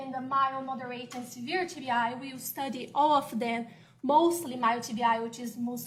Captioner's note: off microphone